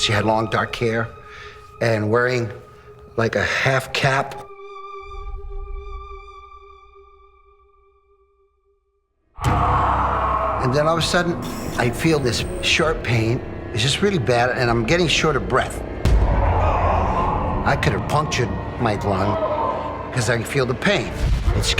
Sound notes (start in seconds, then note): 9.4 groan